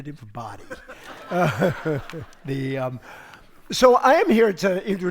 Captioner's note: audience laughs